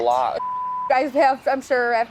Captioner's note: beeping